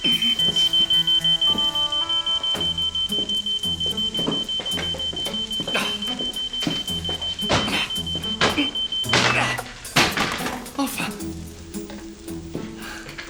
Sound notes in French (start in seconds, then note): 9.2 grognements